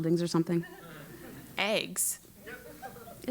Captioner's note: laugh